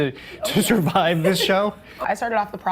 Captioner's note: laughs